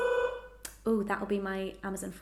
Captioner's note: bell ringing